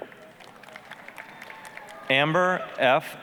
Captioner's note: applause